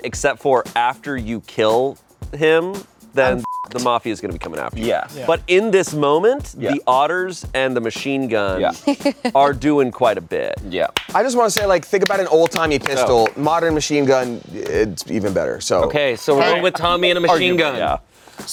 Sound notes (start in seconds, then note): 3.3 beep